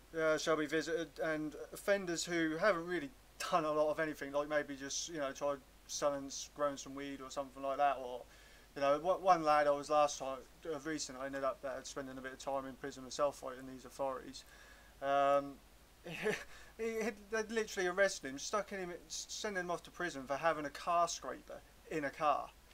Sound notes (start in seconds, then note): 16.1 disbelief chuckle